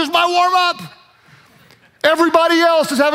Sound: audience laughs

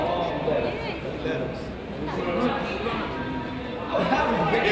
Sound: crowd chatters and laughs

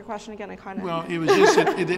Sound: laughter

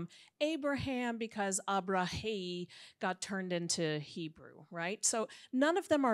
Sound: speaks in Hebrew

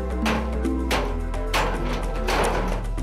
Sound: hammering sound

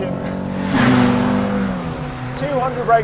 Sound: car roars

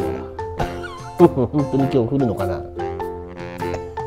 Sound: laughs

